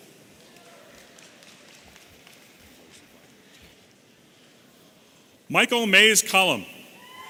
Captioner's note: audience applauding